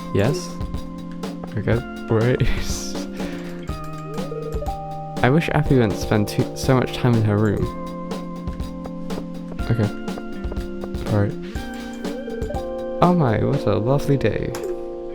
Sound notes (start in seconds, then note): 3.1 wheeze